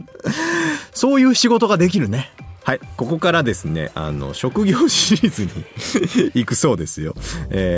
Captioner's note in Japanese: 笑い; 笑い